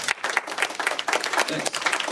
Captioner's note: applause